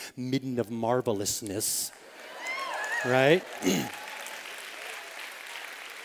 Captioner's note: applause